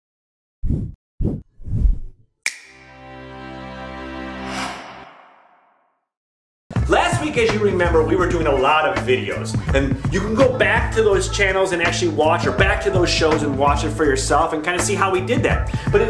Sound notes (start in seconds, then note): 1.6 whoosh; 2.4 snap; 2.6 orchestral chord; 4.5 whoosh; 6.8 upbeat music